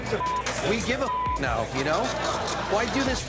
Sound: beep

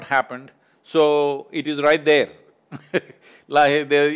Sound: laughs

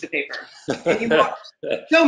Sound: laughing

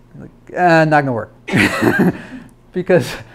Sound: laughs

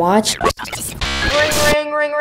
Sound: static; phone Ringing

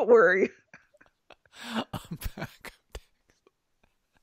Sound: laughing

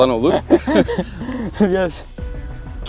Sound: laughter

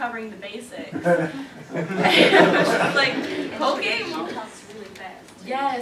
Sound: laughter

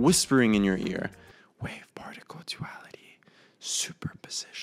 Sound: whisper the following lines

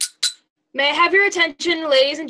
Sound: taps glass

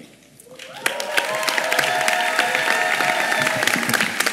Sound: applause

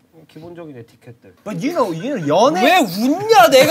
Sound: studio bursts into laughter

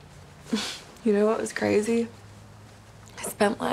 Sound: scoffs

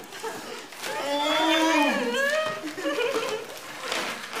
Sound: dad moans; mom chuckles

